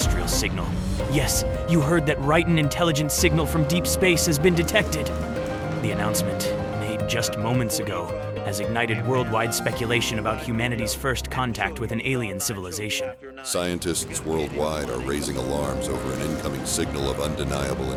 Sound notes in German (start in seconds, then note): none